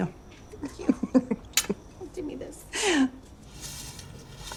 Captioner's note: laughing